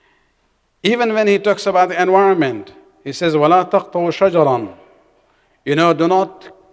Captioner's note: arabic